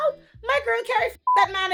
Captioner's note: beep